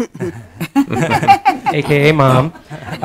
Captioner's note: group laughing